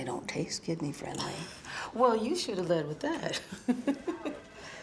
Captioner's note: laughs